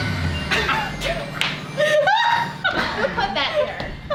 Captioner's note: laughter